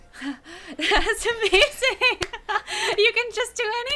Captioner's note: laughing